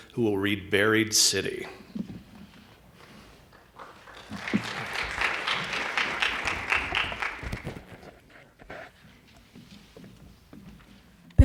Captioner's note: applause